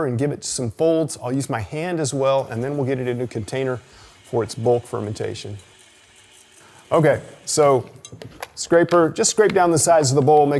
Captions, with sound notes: and give it some folds. I'll use my hand as well and then we'll get it into a container for its bulk fermentation. (mixer whirring) (chocolate chips rattling) Okay, so scraper, just scrape down the sides of the bowl,